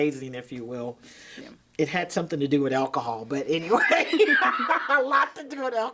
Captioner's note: laughing